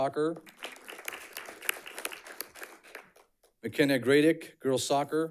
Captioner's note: audience clapping